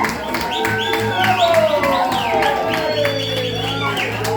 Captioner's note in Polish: aplauz